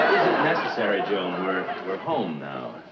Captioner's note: audience laughs